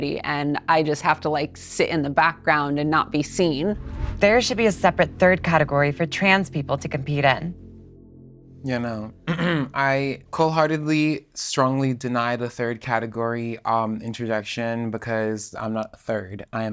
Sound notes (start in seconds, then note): 9.2 clears throat